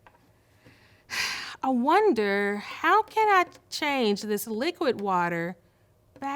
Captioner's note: sighs